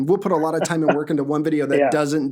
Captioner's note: laughs